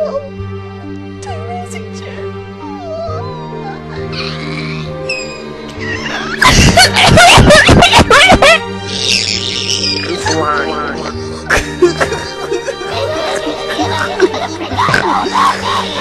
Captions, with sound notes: no....... terezi-chan...... ohhhhh [screeching] [gross sobbing] 1M BL1ND.... I dont understand how you couldve forgotten all about meeeeeee